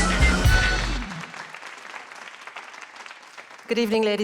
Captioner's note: applause